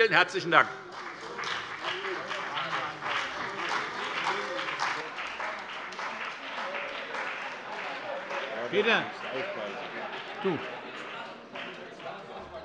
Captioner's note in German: Beifall bei der FDP, der CDU und dem BÜNDNIS 90/DIE GRÜNEN - Unruhe